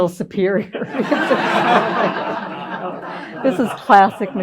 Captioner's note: laughter